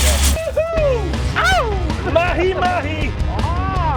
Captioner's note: shouting